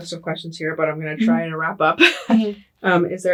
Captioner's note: laughs